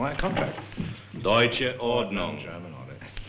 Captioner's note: German spoken audio